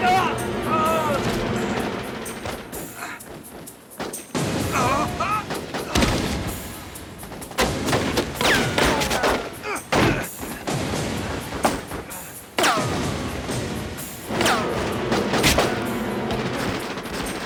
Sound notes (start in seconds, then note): 0.9 groans; 7.5 gunfire